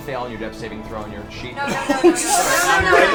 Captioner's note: gasps